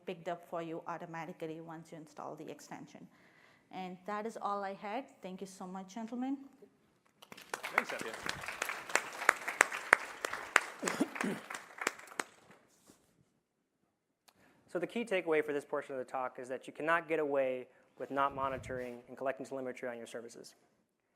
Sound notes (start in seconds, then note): 7.2 applause